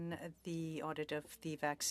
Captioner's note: speaking French